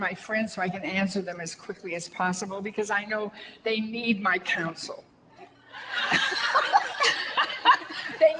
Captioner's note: audience laughter